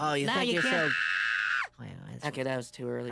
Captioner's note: screams